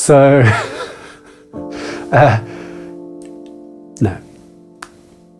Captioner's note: laughs